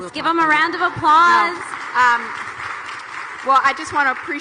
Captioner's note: audience applauding